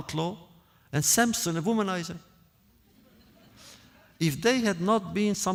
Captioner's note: laughter